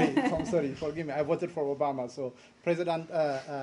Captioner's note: laughter